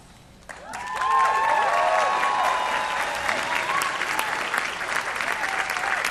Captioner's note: cheering